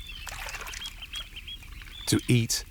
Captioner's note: water sloshes